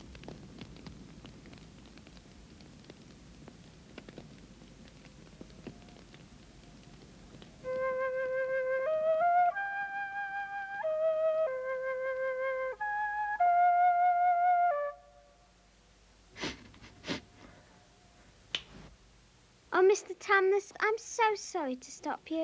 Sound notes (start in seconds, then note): 7.7 playing sad tune; 16.3 weeping softly; 18.5 snaps fingers